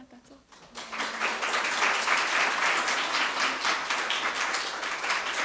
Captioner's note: audience applauds